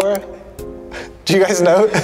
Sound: Alex laughing

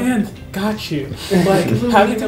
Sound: laughing

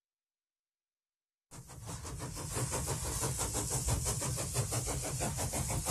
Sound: train approaches

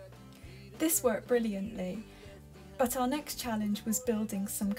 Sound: voiceover

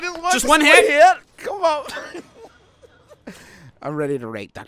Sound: laughing

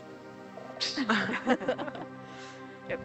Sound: people laughing

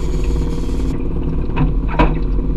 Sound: engine

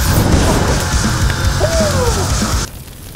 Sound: fire whooshing

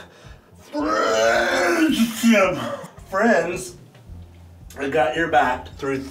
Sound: pukes

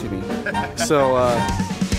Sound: man laughs

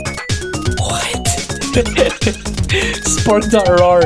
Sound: laughing

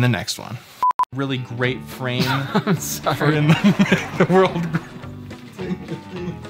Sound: laughing

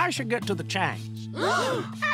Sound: gasping

